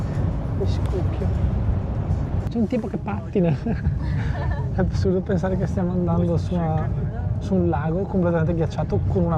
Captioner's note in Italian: risate